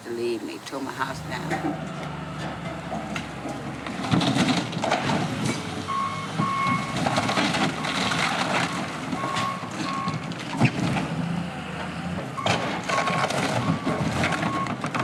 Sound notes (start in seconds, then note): 4.5 construction noise